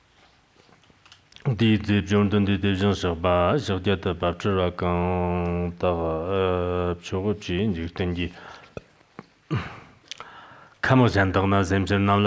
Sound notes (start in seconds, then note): 0.9 giving oral transmission in Tibetan